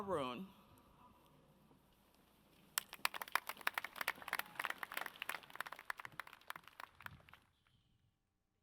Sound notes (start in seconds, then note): 2.7 audience claps